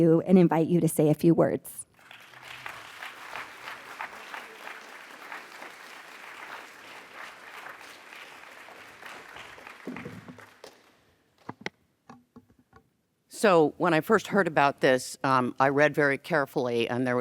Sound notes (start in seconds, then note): 1.9 audience applauds